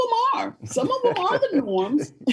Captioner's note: laughing